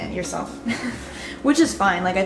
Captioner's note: laughs